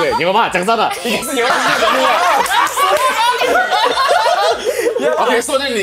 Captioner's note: laughs